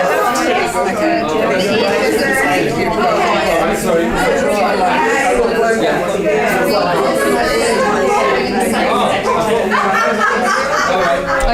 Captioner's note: participant chatter